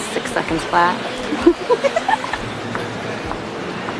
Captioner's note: chuckling